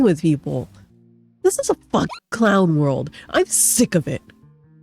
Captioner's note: hyucking